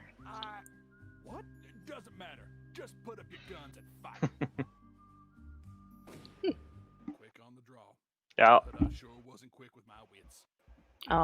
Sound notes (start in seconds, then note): 5.8 gunshot